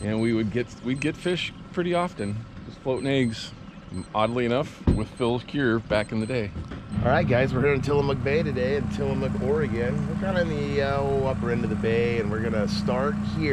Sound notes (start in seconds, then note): 6.7 boat engine running